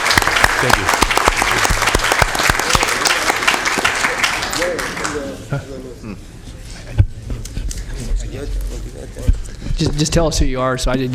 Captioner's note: applause